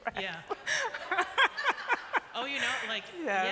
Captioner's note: laughter